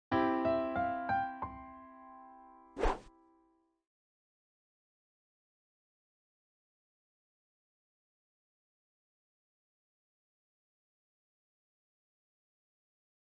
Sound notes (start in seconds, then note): 0.1 piano music intro; 2.8 swooshes